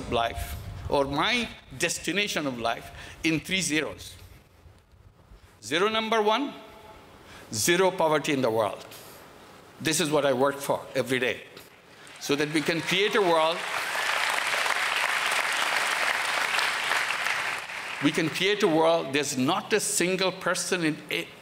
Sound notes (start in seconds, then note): 12.0 applause